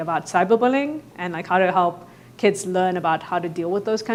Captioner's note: none